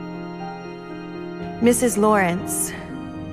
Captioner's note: voiceover